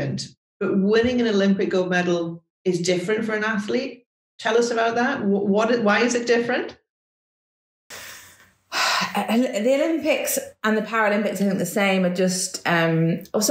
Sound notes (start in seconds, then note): 7.9 sighs